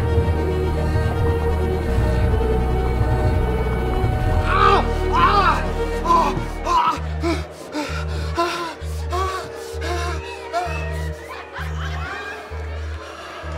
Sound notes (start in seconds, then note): 5.0 screaming; 6.0 panting